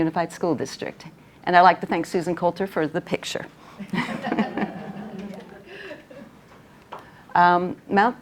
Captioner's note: chuckling from the audience